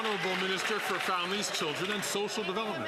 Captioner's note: some Applause